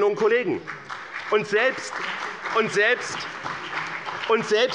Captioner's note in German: Beifall bei dem BÜNDNIS 90/DIE GRÜNEN und der CDU